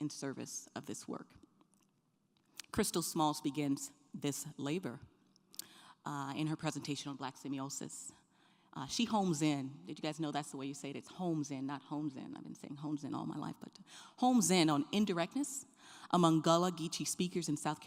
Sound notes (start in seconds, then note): none